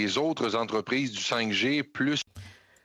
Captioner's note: speaking French